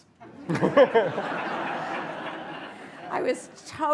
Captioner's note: laughter